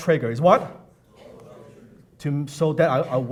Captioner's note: audience answers